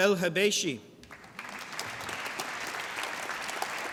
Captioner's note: applause